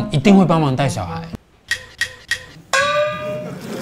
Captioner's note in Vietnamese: ding